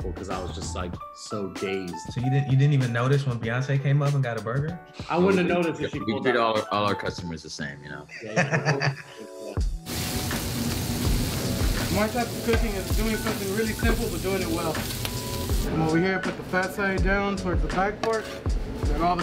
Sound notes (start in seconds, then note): 8.1 laughing; 9.8 sizzling